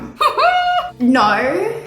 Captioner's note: laughs